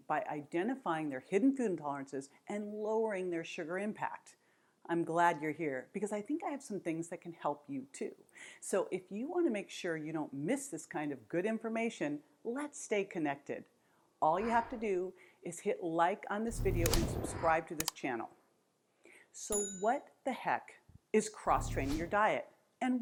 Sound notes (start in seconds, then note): 19.5 bell dings; 21.5 graphic whooshes